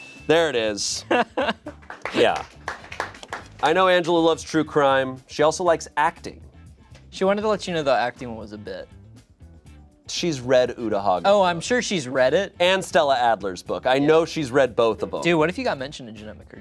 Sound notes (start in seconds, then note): 0.0 bell chimes; 0.8 laughs; 1.7 crew applauds